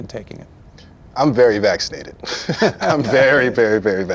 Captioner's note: chuckles